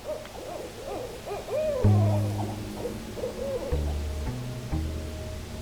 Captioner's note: owl hooting